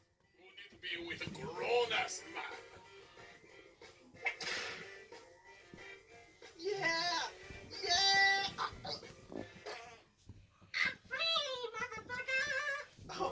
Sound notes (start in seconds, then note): 7.0 autotuned voice; 7.9 chokes; 9.2 farts